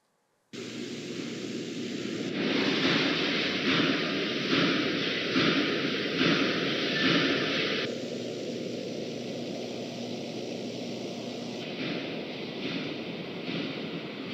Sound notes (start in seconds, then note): 0.6 highway noise; 3.2 working machine noise; 8.1 sound of wind